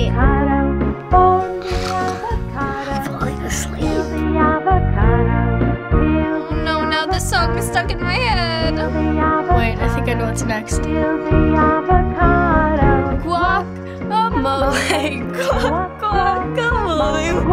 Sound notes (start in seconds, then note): 1.6 fakes snore; 14.6 giggles